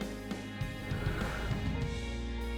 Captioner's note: Serena inhales